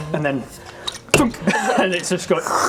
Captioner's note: thunk